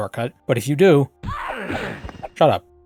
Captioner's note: sounds of monk-y violence